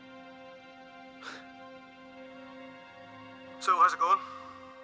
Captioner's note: Chris scoffs